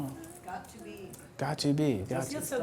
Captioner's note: voiceover